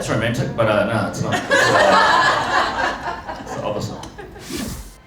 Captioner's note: laughter